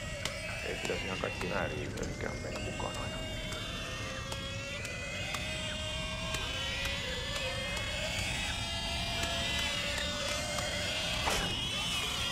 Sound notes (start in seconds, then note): 4.5 screaming pigs continued